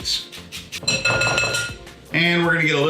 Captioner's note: clanking